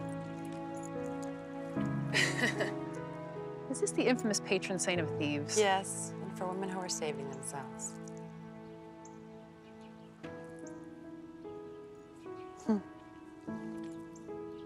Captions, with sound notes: - (laughs) Is this the infamous patron saint of thieves? - Yes, and for women who are saving themselves.